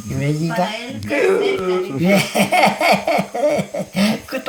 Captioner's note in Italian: laughs